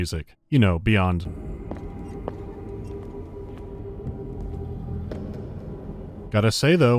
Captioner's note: ambient humming